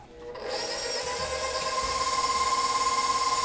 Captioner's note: mixer burrs